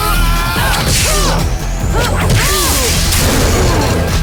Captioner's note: Dante screaming; weapon crackling; Trish grunts